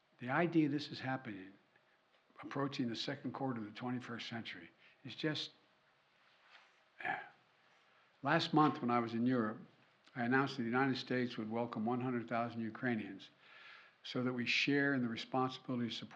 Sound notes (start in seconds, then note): 7.0 sighs